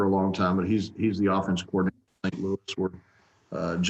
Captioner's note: speaks faintly